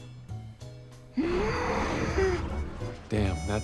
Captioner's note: grunts